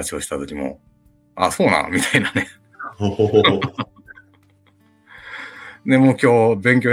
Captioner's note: laughs